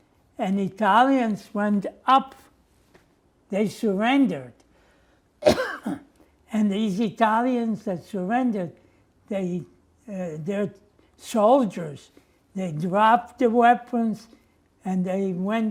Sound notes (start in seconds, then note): 5.4 coughing